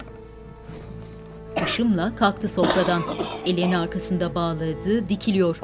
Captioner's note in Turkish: Öksürme sesleri